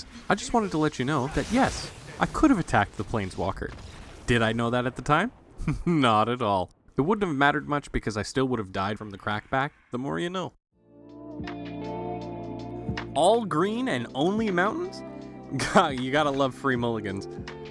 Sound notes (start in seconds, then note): 5.6 chuckles